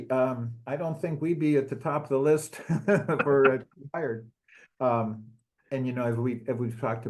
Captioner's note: laugh